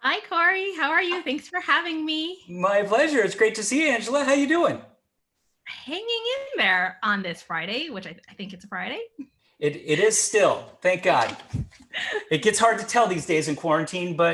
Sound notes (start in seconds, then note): 11.6 chuckling